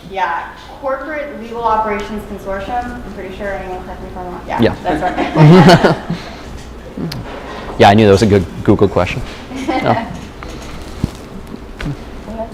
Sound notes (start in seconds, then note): 4.9 laughter